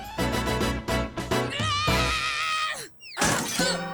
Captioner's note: bright music; screams; body thudding